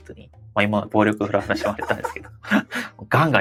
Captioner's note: laughs